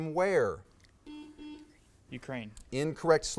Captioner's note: buzz